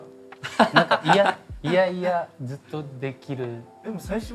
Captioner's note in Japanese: 爆笑